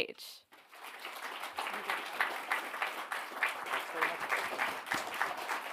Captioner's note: audience applauds